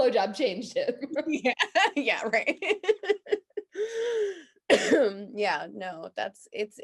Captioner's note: laughs